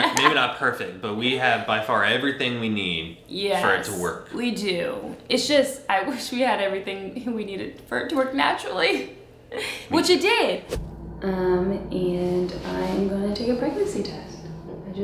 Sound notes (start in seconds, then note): 9.3 chuckles